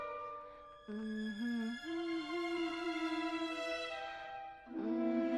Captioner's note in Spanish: enriqueta tararea una nana siniestra